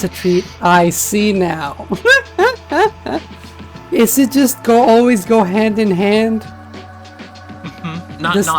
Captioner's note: laughs